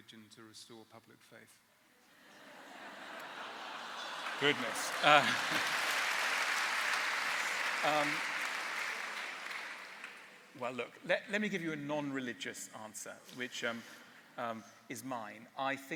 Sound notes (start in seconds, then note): 2.2 laughter; 5.2 applause